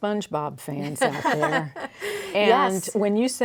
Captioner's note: laughing